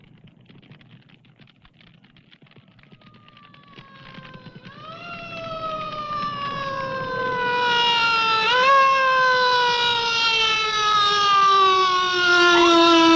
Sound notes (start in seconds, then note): 0.1 fire crackling; 3.6 siren wailing